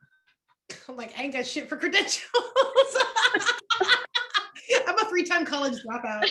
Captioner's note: laughter